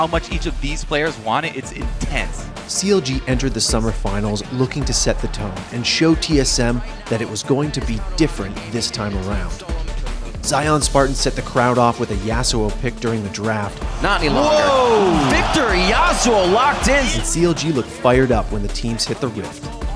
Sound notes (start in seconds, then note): 13.8 crowd reaction